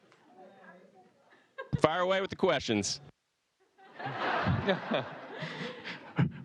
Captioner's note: laughter